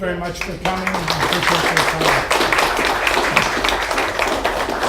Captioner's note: applause